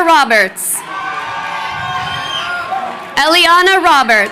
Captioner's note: crowd cheering